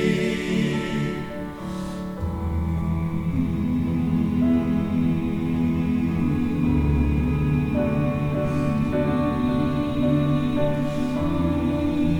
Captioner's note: humming